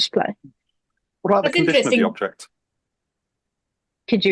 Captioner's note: multiple voices